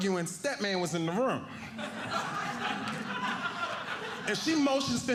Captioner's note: audience laughing